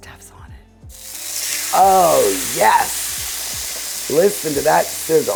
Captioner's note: pan sizzles